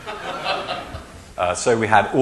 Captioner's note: laughing